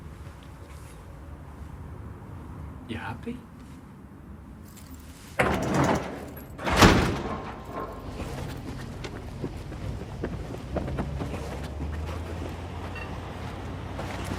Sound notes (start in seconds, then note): 5.4 door slamming; 11.2 engine rumbling